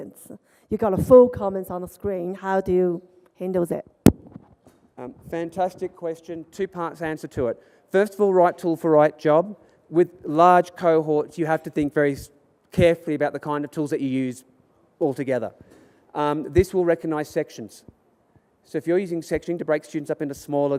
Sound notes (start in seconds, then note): none